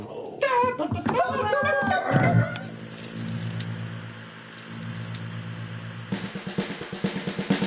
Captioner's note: click, TV static; groovy theme